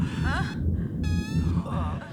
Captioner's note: moaning